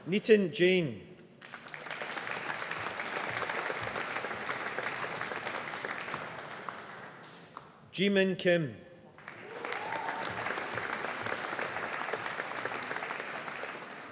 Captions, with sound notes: Nitin Jain. (AUDIENCE APPLAUDING) Jimin Kim. (AUDIENCE APPLAUDING)